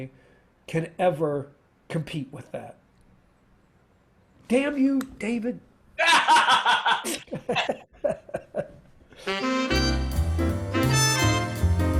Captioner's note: laughter